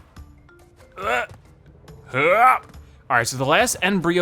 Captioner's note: grunting